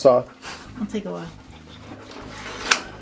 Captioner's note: chuckling